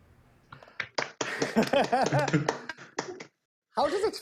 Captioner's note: applause